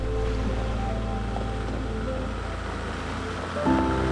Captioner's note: car engine roaring